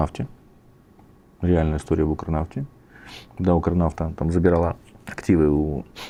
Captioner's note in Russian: фыркает